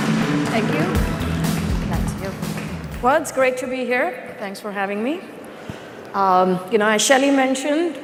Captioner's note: applause